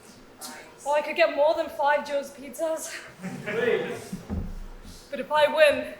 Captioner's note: audience laughs